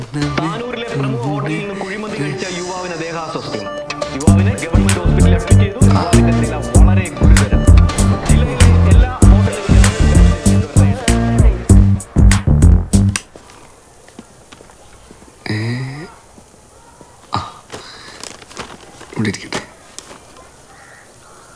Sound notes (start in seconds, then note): 8.5 TV News continues